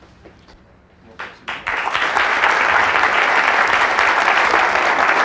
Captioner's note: audience applauds